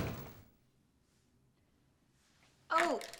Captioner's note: door slams